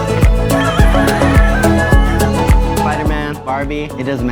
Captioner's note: rooster crowing